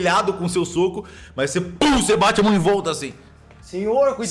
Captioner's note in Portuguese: pow